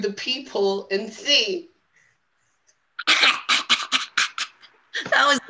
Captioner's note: laughs